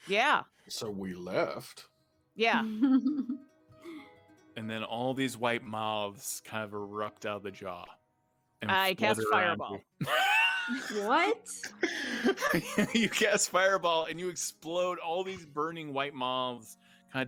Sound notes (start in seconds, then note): 10.0 laughs